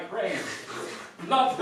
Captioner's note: slurping noises